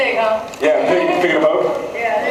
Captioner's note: laughs